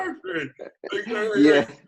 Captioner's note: laughs